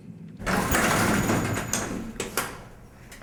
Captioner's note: elevator clatters